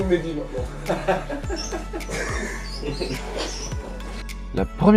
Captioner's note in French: rires